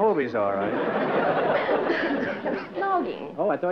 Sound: laughter

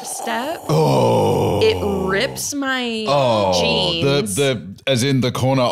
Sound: both making horrified noises

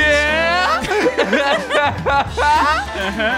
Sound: laughing

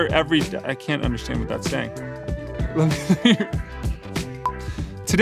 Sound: laughing

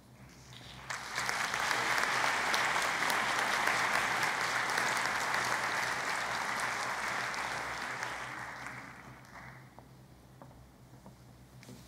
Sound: applause

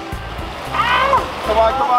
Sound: water spraying

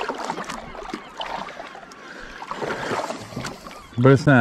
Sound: water lapping

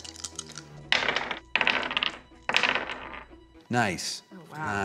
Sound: dice rolls

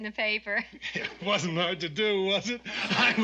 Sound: Tank chuckling

